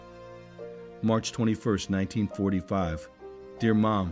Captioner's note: voiceover